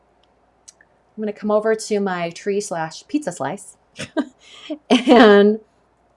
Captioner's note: laughs